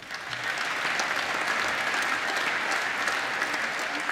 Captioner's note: applause